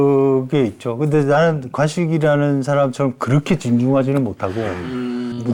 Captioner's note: sudden shift in his way of speaking